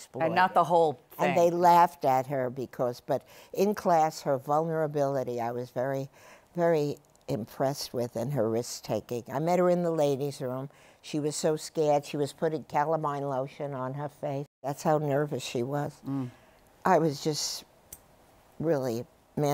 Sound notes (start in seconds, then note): none